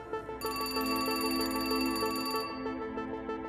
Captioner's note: Phone rings